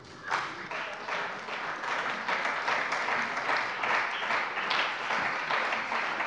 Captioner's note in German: Beifall bei der CDU und dem BÜNDNIS 90/DIE GRÜNEN